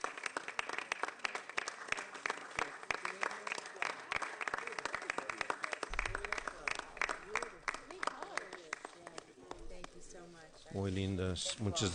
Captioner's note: applause